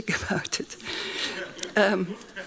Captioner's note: laughing; laughs